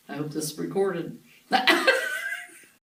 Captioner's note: laughs